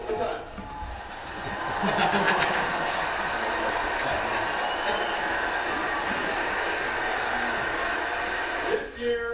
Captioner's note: audience goes wild applauding and cheering